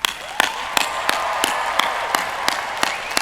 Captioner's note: cheering